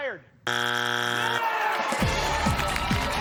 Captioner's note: buzzer sounds